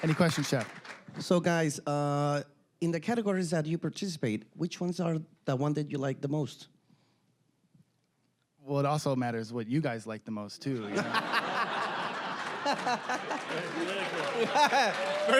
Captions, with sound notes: >> Any questions, Chef? >> (with Mexican accent) So guys, in the categories that you participate, which ones are the ones that you like the most? >> Well, it also matters what you guys like the most, too. (all laughing)